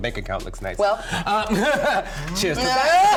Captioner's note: laughs